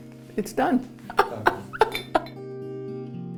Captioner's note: laughs